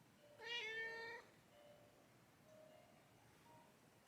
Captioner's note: meowww